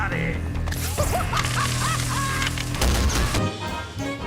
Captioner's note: Jonkler maniacally laughs